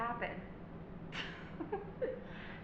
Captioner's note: mom laughs